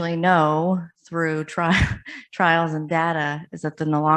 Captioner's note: chuckles